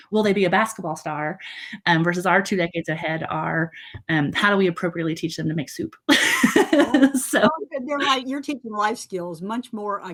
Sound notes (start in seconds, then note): 6.1 laughing